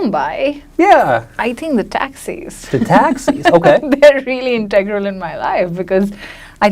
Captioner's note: laughs